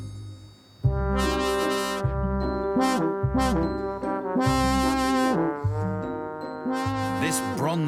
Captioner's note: horn blaring